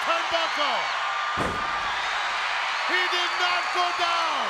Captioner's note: audience cheers